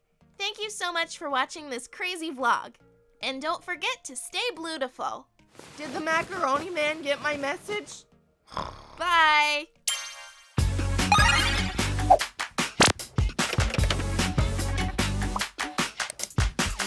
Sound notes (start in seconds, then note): 8.4 snores